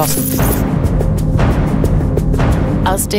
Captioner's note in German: Wiederholtes Pochen